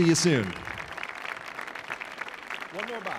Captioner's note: applause continues